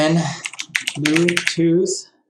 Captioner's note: keyboard clicking